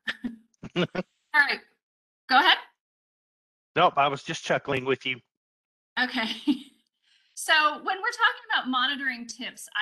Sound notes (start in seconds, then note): 0.6 chuckling; 6.6 chuckles